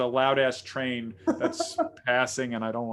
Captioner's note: laughing